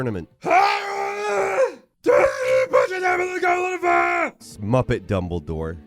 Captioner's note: shouts gibberish